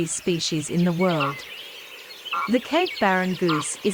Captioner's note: cape barren sound